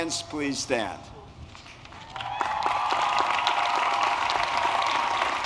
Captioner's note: applause